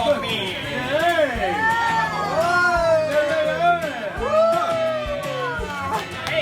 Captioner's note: cheering